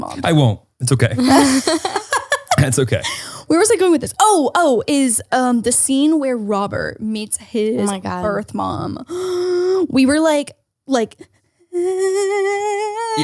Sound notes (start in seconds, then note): 1.2 laughs; 8.8 gasps; 11.7 fake cries